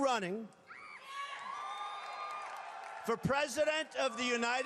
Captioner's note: cheering